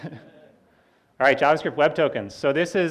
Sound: laughs

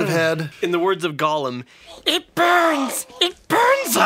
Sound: screeches

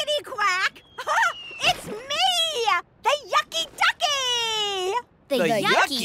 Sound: giggles

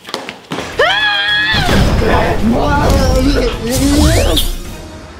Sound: yelling; zapping sound

